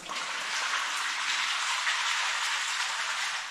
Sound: splashing water

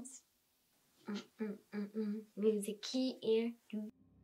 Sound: humming

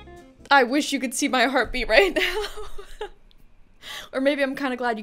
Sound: laughs

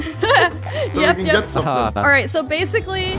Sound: laughing happily

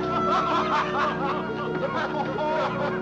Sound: laughing continues

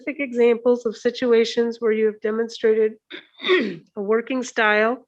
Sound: clears throat

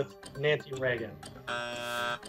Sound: buzzer buzzing

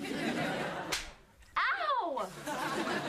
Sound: slap

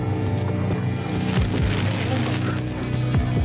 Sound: tense music continues; flame sparks; tense music continues

